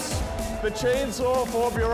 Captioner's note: cheers and applause